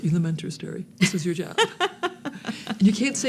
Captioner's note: laughing